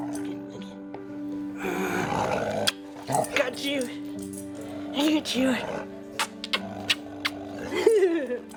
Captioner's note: laughs